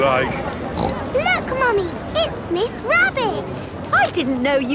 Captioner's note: snorts